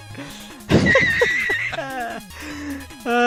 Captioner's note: very genuine and light-hearted laugh